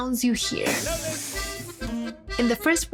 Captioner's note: sizzling